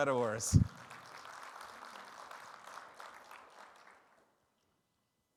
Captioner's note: audience applauding